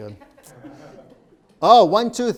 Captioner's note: laughing